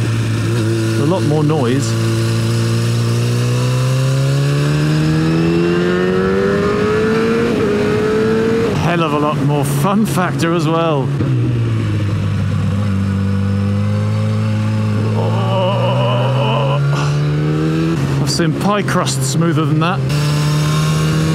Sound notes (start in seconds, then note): 15.6 voice shaken by bumpy road